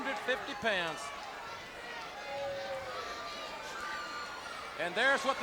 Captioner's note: audience cheering